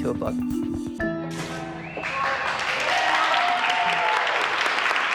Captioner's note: cheers and applause